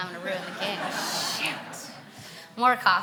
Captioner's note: audience laughing